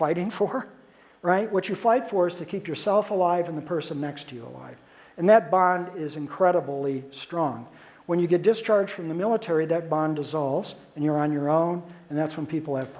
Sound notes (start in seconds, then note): none